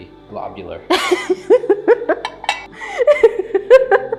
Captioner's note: laughing